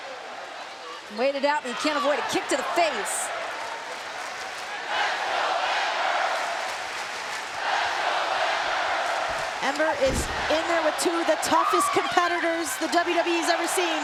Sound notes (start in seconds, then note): 6.3 applause